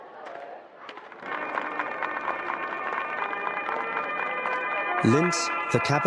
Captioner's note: people clapping; instrumental music